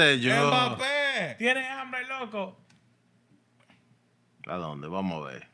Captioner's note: speaking Spanish